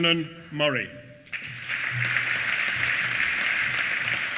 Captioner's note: applause